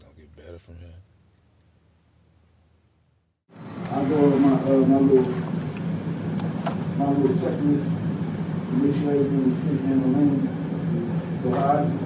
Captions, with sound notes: It just goin' get better from here. (loud speaker)